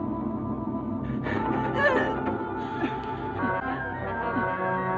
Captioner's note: woman gasping